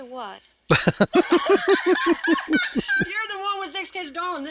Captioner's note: laughing